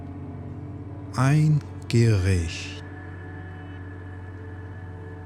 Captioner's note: german